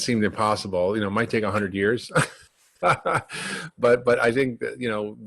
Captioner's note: laughing